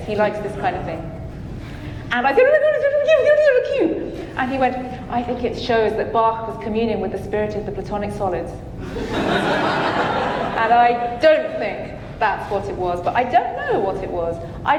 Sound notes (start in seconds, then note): 2.5 talking gibberish; 8.8 audience laughing